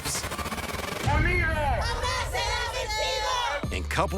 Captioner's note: chanting